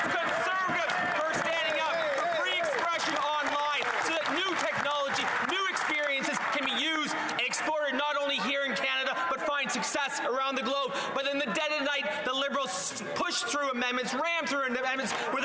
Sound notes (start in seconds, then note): 7.2 some Applause